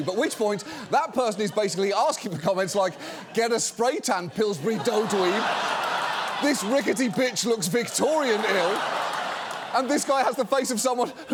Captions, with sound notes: at which point, that person is basically asking for comments like... (AUDIENCE LAUGHS) And...